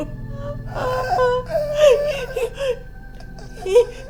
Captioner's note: Caroline crying; dramatic music